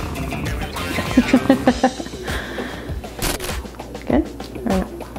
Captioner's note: laughing